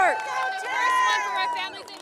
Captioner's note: audience cheering